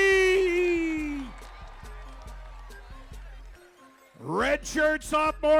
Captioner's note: crowd cheering